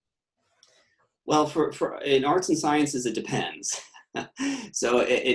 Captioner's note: laughs